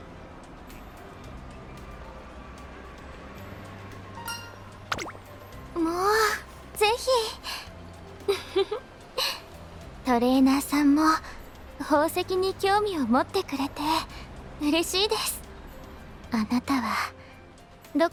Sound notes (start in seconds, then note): 8.3 laughs